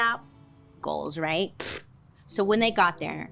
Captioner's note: scoffs